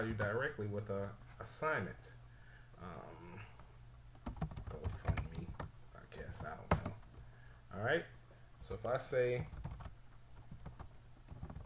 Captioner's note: typing sounds